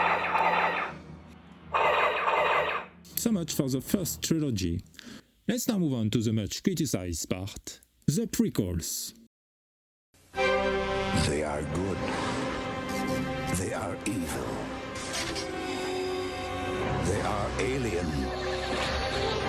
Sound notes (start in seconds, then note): 0.0 cannons sound